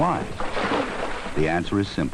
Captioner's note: splashing